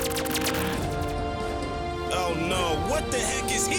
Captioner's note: lasers fire rapidly